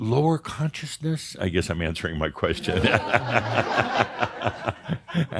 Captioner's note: Adamus laughs